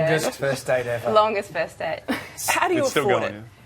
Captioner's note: laughing